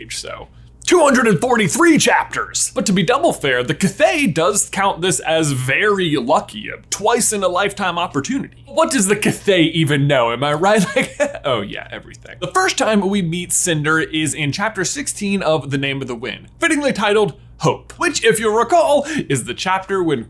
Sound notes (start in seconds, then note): 10.7 laughs